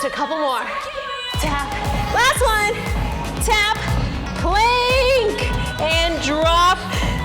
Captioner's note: yells